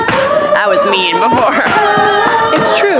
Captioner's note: laughs